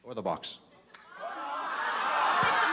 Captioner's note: audience shouting